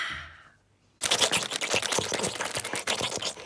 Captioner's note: Callie Munching Then Slurping